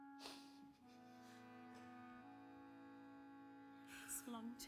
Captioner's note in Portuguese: melancholic music; Charlie sniffles